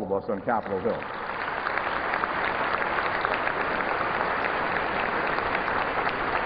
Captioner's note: applause